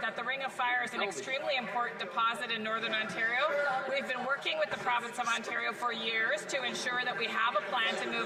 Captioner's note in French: voix de l'interprète